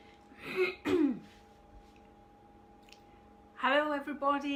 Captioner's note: clearing throat